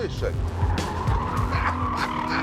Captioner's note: tyres screech; laughs